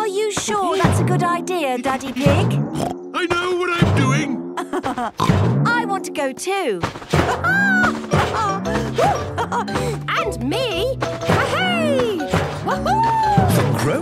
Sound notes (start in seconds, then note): 2.7 snorts; 4.5 laughs; 7.2 laughs